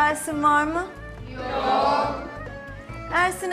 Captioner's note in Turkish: Hep bir ağızdan